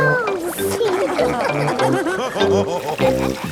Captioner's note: all laughing